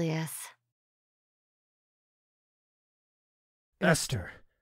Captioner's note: silence